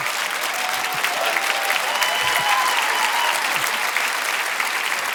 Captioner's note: audience laughing; audience cheering and applauding